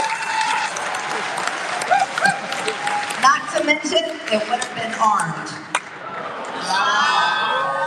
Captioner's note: applause